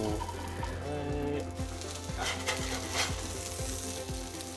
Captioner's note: pan scraping; gentle music